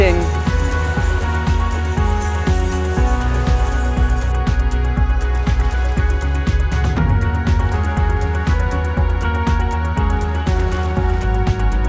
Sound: waves

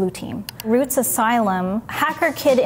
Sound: mouse clicking

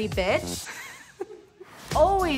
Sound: giggles

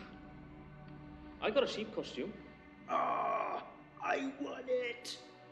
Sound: groans

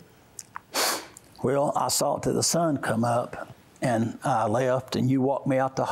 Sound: sniffs

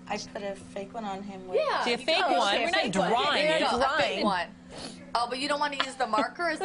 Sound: laughter

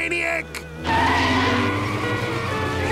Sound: screeching

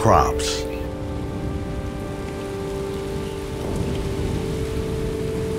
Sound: heavy rain

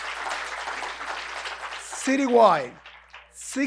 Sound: applause

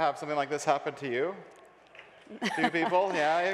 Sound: light applause

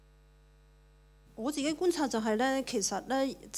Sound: Cantonese

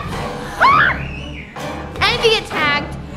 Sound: everyone screaming

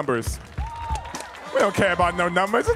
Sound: audience cheering

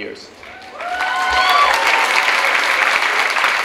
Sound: clapping

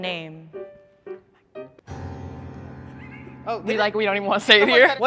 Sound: whispers

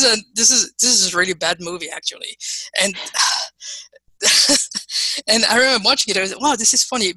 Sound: laughing

